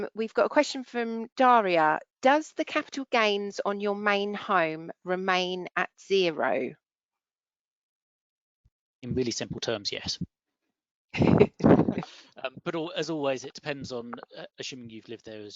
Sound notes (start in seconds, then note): 12.4 chuckling